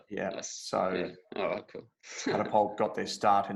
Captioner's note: laughs